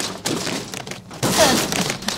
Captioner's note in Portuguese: Choraminga